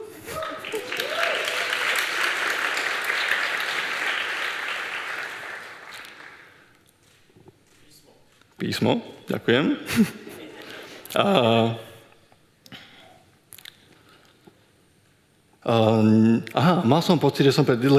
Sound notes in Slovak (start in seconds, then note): 0.2 Potlesk